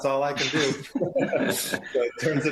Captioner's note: laugh